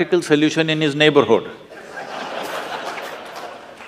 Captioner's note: laughter/Applause